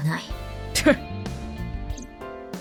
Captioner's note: scoffs